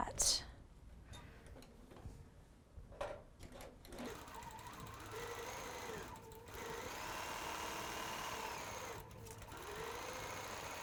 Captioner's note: sewing